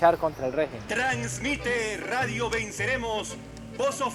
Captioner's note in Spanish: radio